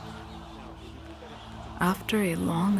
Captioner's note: distant crowds shouting